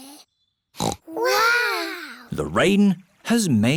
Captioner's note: peppa snorts